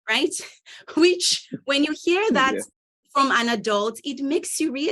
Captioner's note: both chuckling